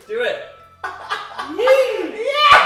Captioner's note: strangled laughter